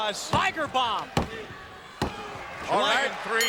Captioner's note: hand pounding